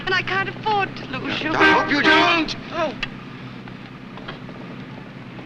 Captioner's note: horns